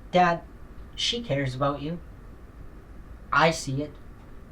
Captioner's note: none